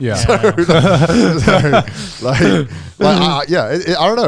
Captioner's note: all laughing